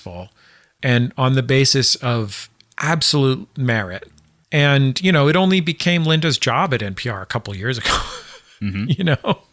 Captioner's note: laughs